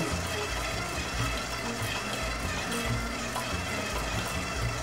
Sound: machine whirring

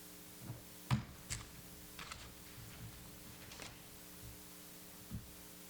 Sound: accessories clattering

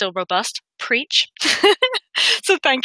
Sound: laughs

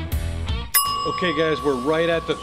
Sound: timer chiming

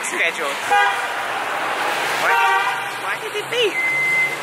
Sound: car horns

